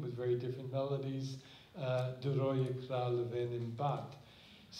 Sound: non-english

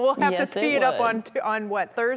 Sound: laughter

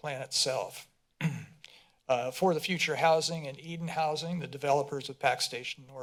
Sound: clears throat

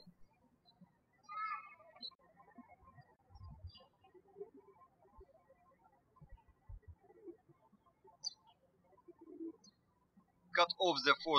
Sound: birds chirping

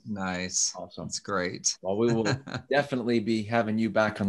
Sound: laughs

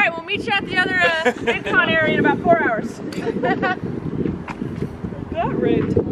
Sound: laughing

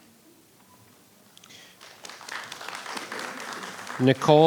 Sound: audience applauding

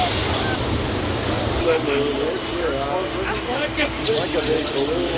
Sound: chatter

